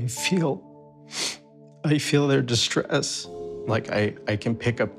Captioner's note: sniffles